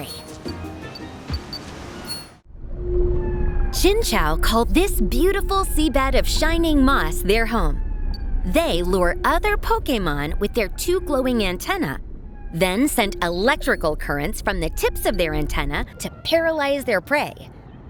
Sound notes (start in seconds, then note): 5.0 distant curious wails